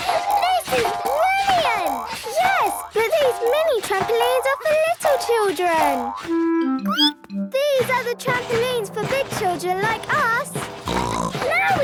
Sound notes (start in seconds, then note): 6.6 squeaks; 10.6 snorts